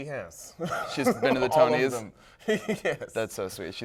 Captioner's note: laughs